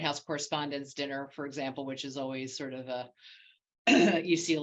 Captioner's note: clears throat